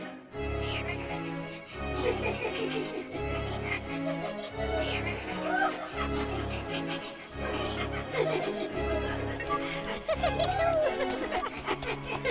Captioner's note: evil laughing